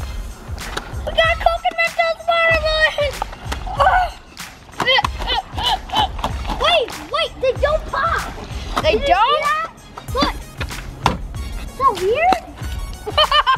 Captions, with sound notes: - We got Coke and Mentos water balloons! (loud grunting) - Wait, wait, they don't pop! - They don't? - Do you see them? Look! So weird!